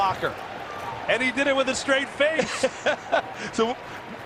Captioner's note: laughing